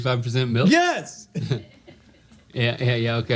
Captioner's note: laughing